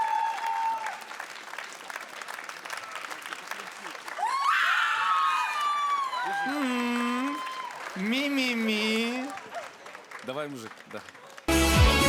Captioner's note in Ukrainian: оплески